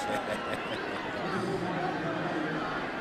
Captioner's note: laughs